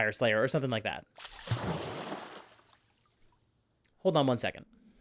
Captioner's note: splash